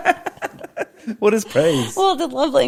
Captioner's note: laughing